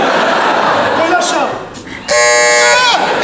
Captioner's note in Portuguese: campainha